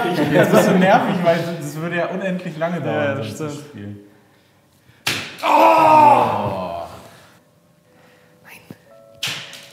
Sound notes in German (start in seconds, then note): 5.4 Urschrei; 8.3 flüstert